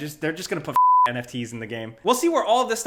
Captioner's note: stutters; beep